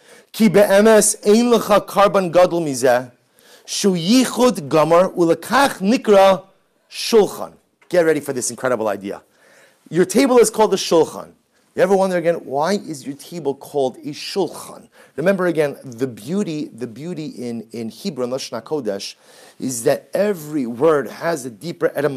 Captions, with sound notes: [Hebrew] [Hebrew] Get ready for this incredible idea. Your table is called the "shulchan". You ever wonder again why is your table called a "shulchan"? Remember again the beauty, the beauty in in Hebrew, "lashon hakodesh", is that every word has a deeper